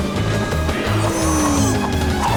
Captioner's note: mooing